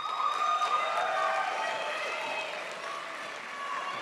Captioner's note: crowd applauds